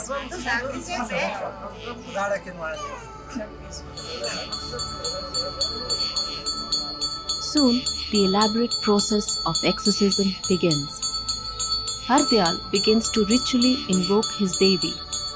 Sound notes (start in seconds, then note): 0.2 bells jingling; 0.2 indistinct conversation; 11.1 bells jingling